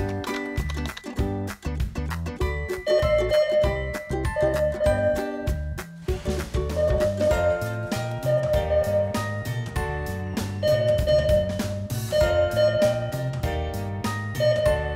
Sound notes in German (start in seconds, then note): 3.0 Signal ertönt